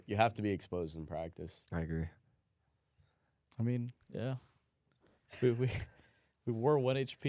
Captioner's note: laughs